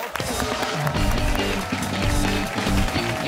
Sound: cheers and applause

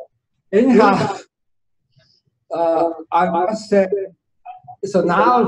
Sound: laughing

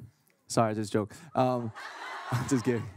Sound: laughing

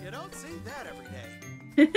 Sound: laughs

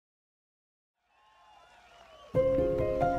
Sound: cheering

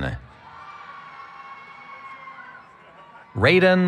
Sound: cheering

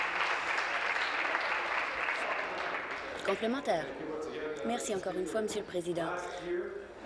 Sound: applause

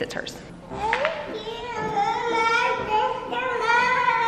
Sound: fussing

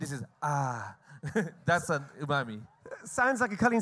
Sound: laughs

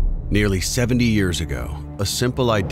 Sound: voiceover

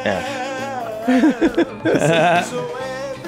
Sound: Rob laughs

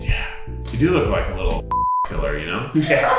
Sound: beep; laughs

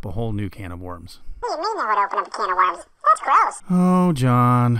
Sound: kids voice

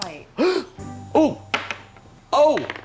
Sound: gasps

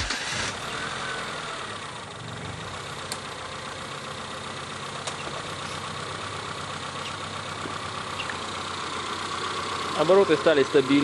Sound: a uniform sound of the engine is heard

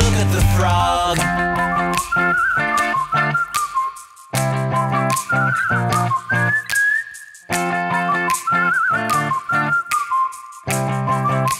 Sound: whistling

